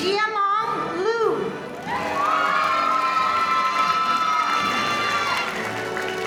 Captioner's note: audience applauding